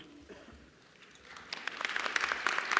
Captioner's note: applause